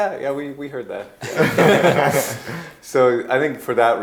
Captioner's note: group laughing